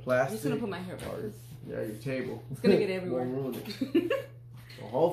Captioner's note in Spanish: Risas